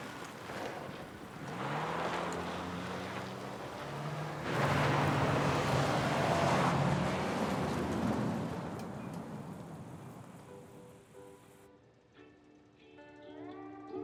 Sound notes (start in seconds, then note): 1.4 tires screeching softly; 11.8 slow Hawaiian music